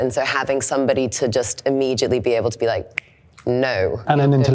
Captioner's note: snaps